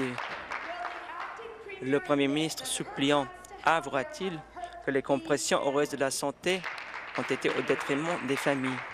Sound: applause

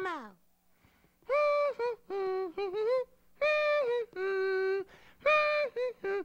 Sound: humming sesame street theme

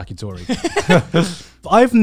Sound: laughing

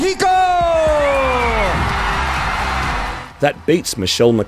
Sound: crowd cheering

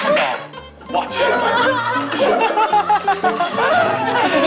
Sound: the members are laughing out loud

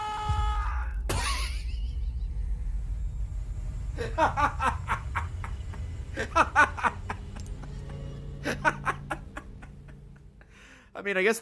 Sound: laughs

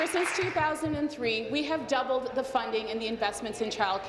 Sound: applause

